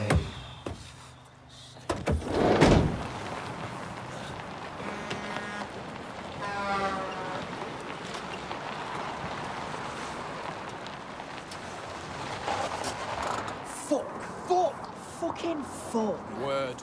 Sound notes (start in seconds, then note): 6.2 diesel horn honks